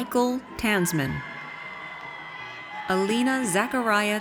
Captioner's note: audience cheers